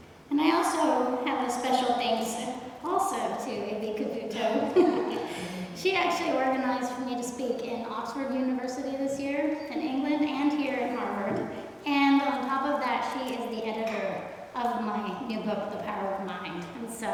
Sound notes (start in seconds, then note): 4.4 chuckles